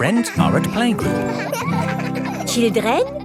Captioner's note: children laughing